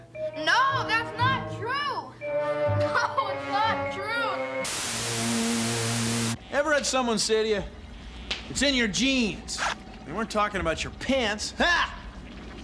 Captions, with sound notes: NO, THAT'S NOT TRUE! [ Crying ] NO, IT'S NOT TRUE! EVER HAD SOMEONE SAY TO YOU, "IT'S IN YOUR GENES"? THEY WEREN'T TALKING ABOUT YOUR PANTS -- HA!